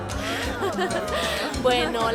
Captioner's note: Caridad ríe